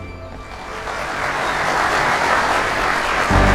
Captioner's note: audience applauding